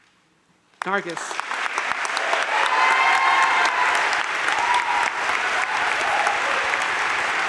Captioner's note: crowd applauding